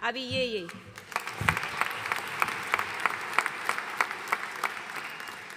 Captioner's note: audience applauding